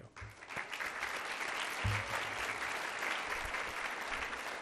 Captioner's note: applause